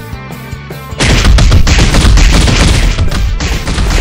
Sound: rapid punches

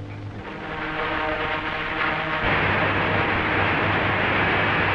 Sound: machinery humming

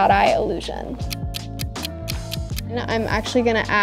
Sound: clock ticking

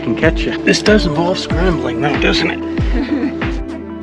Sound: laughter

